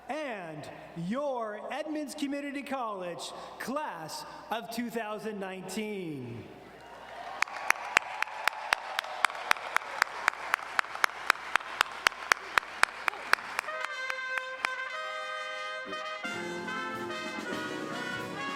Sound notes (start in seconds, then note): 6.8 audience cheering and applauding